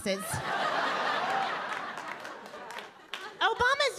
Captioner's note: audience laughing